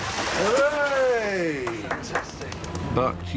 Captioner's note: claps hands